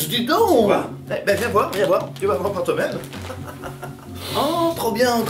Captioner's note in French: rire